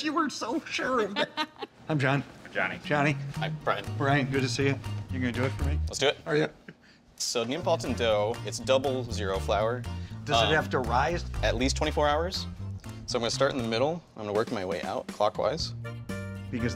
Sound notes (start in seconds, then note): 1.0 laughing